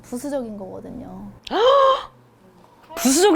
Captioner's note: gasp!